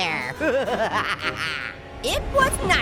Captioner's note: Orange maniacally laughing